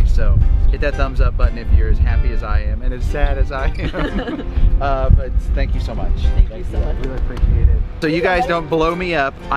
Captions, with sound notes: So, hit that thumbs up button if you're as happy as I am, and as sad as I am. (both laughting) But, thank you so much. - Thank you so much. - Really appreciate it. So you guys don't blow me up,